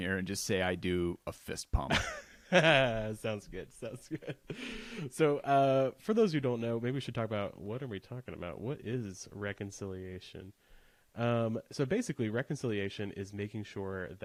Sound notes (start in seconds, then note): 1.9 laughs